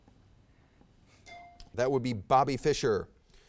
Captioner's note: bell dings